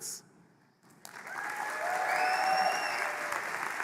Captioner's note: applause; cheering